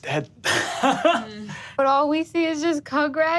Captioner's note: all laugh